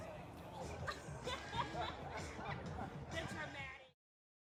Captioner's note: laugh